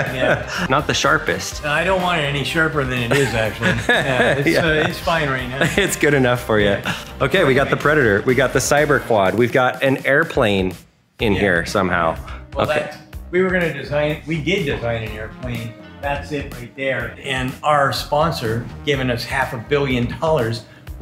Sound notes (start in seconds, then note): 3.0 cameraman laughs